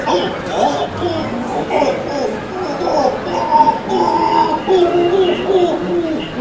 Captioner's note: patient making muffled pained groans